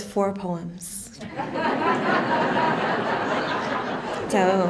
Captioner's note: laughter